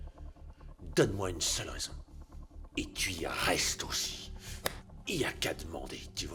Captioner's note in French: claquements de doigts